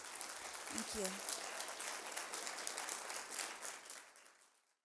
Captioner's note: applause